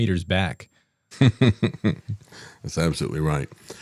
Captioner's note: laughs